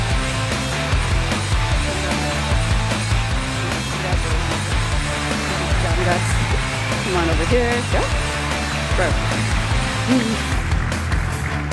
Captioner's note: applause